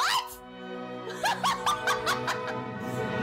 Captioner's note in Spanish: risa de nervios